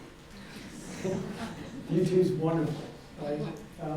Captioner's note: audience laughing